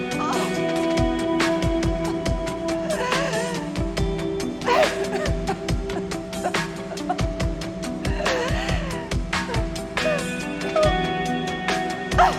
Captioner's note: crying